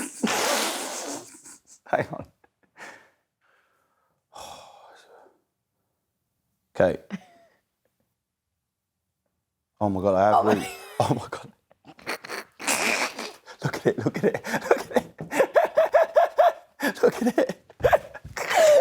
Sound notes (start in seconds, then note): 0.0 laughs; 3.5 sighs; 13.5 laughs